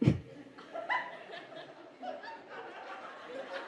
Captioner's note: light laughter